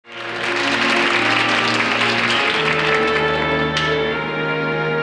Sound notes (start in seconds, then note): 0.0 audience applauding; 2.2 gentle music